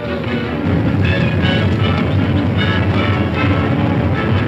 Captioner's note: cows stampeding